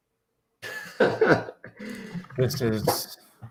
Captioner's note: laughs